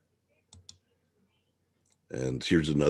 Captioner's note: mouse clicking